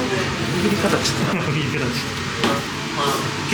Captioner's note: laughs